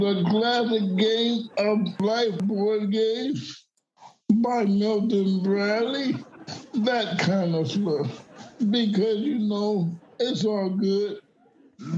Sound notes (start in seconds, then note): 8.1 audience laughing